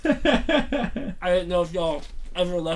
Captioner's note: Thomas laughs